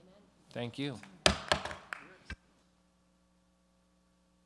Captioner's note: gavel banging